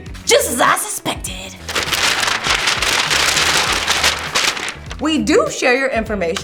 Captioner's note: paper rustling